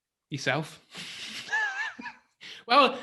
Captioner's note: laughs